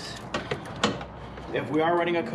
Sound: objects clanging

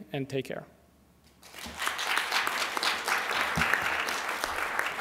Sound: audience clapping

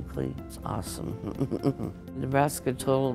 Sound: laughs

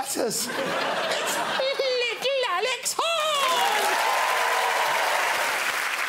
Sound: in high pitched voice

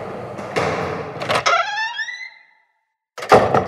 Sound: door creaks open; door slams shut

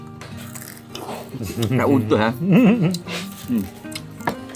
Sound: laugh

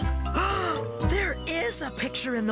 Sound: gasp!

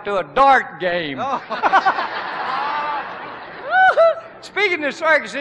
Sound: laughter

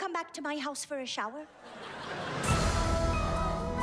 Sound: audience laughs

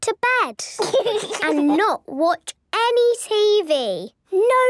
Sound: laugh

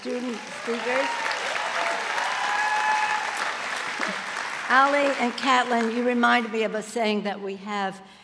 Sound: applause

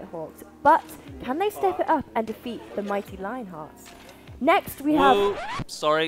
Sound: sound of record being scratched

